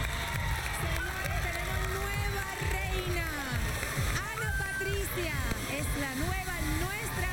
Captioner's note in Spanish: aplausos